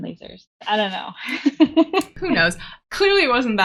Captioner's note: laughing